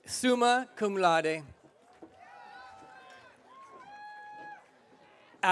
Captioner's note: audience cheering